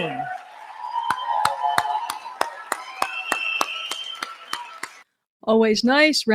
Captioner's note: audience applauds